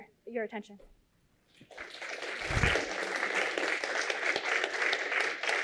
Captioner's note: applause